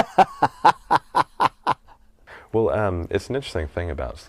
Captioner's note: laughing